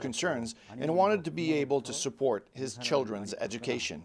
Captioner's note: speaking alternate language